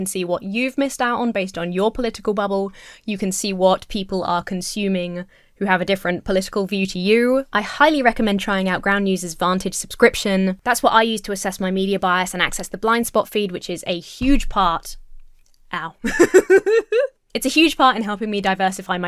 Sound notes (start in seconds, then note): 14.3 elbow thuds on desk; 16.0 laughs